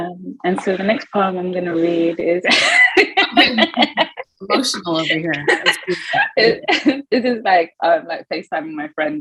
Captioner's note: laughing